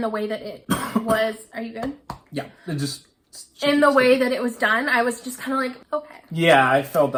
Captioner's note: coughs